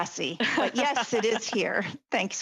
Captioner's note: laughter